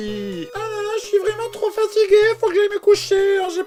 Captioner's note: falsetto voice